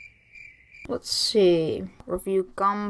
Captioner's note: crickets